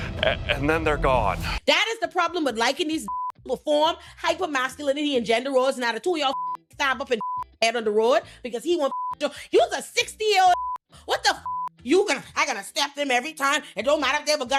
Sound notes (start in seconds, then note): 3.0 beep; 7.2 beep; 8.9 beep; 10.5 beep